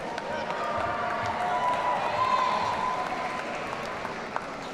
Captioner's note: audience cheering